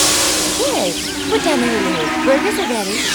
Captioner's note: birds chirping